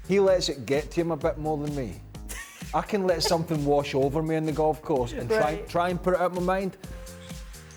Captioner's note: laughter